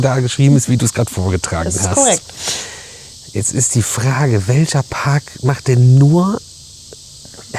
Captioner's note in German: schnauben